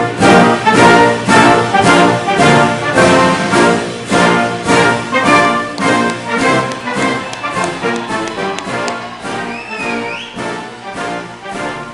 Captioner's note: cheers